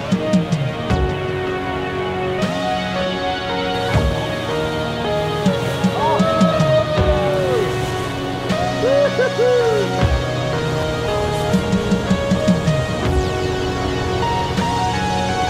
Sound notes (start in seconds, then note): 8.6 men cheering